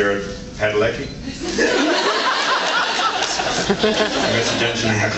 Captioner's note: laughs